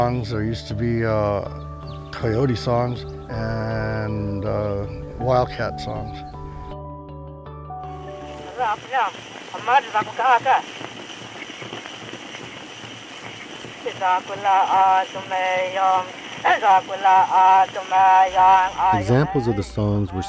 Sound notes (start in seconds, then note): 8.5 speaking in foreign language; 13.9 singing in foreign language